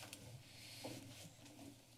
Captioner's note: breaths